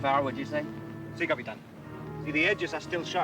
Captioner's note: Ramirez speaks Spanish